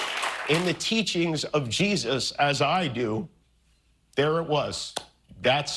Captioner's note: applause